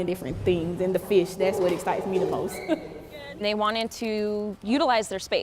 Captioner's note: laughs